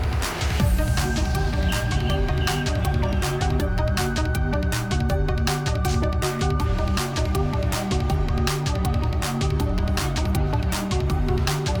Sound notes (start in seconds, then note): none